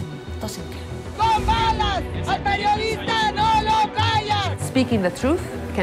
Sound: yelling in foreign language

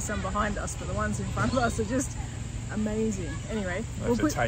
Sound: laughs

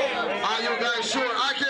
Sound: cheering

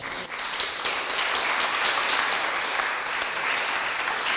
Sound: audience applauding

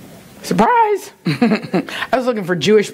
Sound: laughs

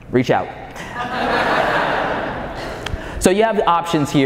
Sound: audience laughing

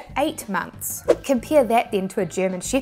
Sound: graphics whooshing

